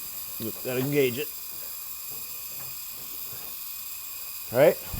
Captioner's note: machine buzzes